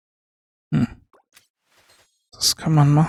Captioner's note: coughs